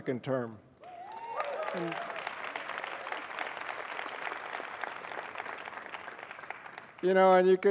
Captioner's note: applause